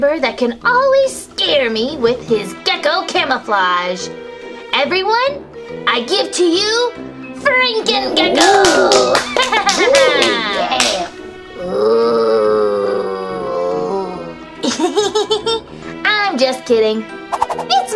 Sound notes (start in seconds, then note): 8.3 clapping; 11.5 creepy moaning; 14.6 laughs